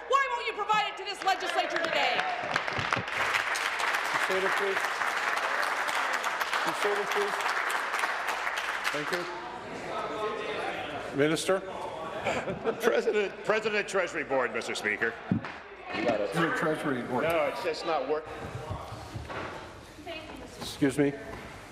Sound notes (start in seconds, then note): 6.7 applause